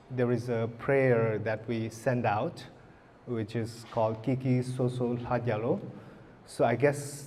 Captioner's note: speaking tibetan